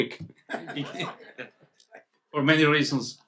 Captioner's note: people laugh